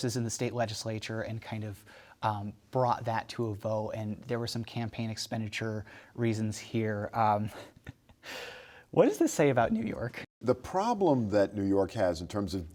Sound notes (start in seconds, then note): 8.0 laughs